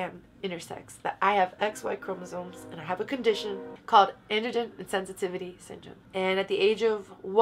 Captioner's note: background train noise